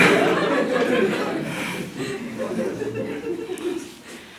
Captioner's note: hehehehehehehehehehehehehehehe